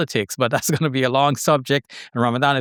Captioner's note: laughs